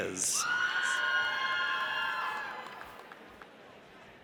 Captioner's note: audience cheers